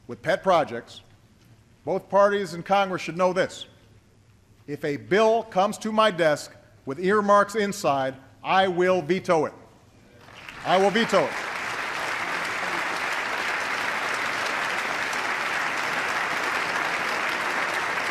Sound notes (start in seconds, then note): 15.2 applause